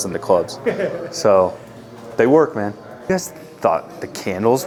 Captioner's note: laughing